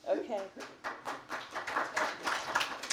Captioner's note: applause